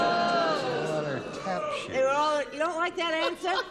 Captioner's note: booing